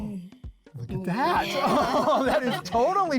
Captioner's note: laughter